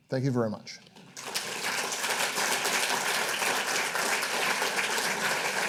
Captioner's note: audience applauding